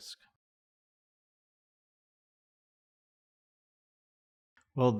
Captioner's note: silence